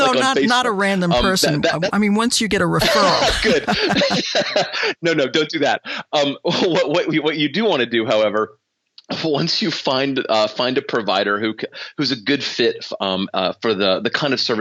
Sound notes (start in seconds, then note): 0.0 chuckles; 2.7 laughter